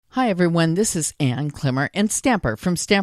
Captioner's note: voiceover